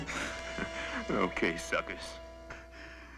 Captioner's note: chuckles